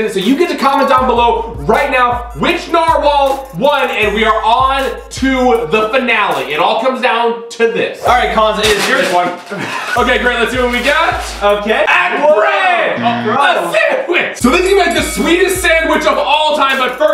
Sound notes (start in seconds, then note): 13.0 buzzer